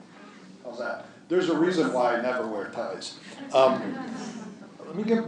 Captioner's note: laughter